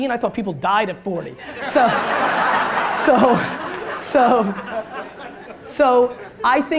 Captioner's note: audience laughter